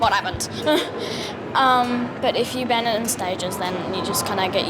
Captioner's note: chuckles